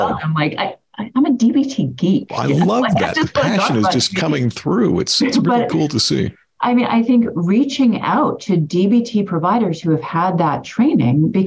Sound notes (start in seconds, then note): 2.4 speaking off mic